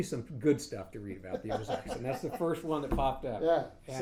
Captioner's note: laughing